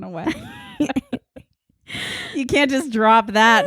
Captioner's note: laughing